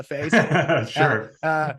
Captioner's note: laughing